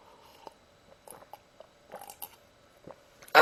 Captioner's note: sip